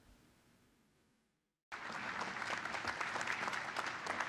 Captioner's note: applause